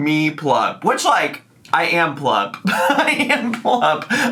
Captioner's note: laughs